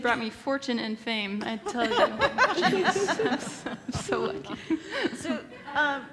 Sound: laugh

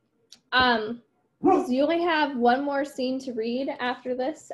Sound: dog bark

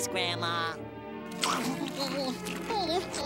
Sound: munching

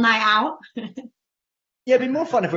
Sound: laughs

